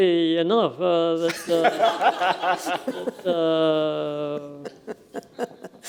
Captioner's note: laughter